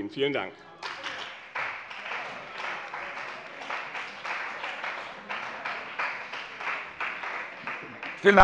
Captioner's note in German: Beifall bei dem BÜNDNIS 90/DIE GRÜNEN und der CDU